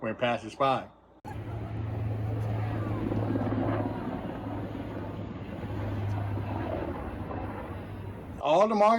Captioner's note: military aircraft engine roar